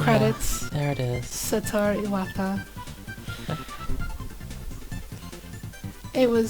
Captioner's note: whispering